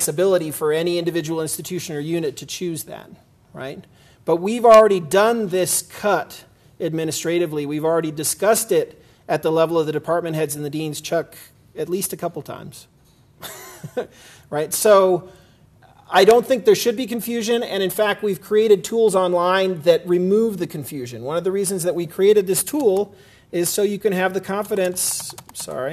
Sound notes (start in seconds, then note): 13.5 laugh